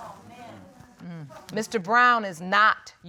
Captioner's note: audience muttering